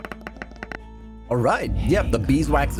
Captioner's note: tapping